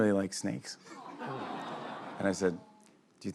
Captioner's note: audience "awws"